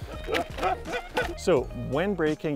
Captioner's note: laughs